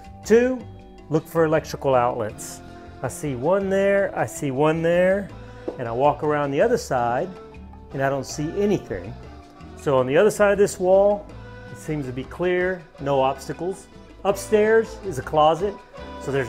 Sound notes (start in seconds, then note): none